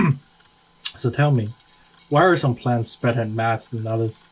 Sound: clears troat

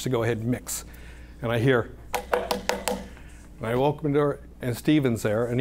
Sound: knocking

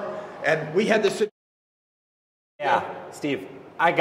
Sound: silence

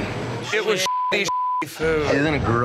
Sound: beeping

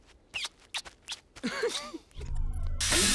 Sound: smooching

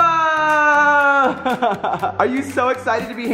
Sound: laughter

